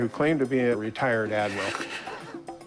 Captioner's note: laughs